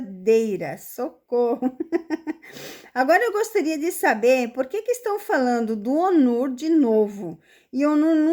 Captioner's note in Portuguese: risadas